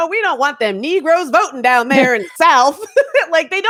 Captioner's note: laughs